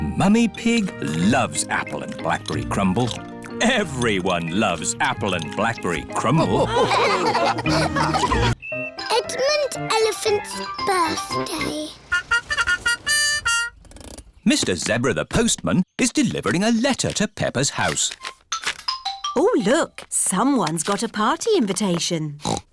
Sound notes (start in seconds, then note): 6.2 all laughing; 12.0 horn tooting